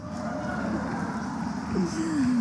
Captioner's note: applause